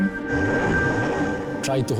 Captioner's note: engine revving